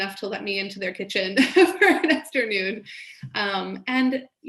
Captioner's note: laughs